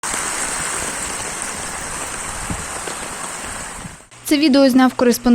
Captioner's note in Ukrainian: звуки дощу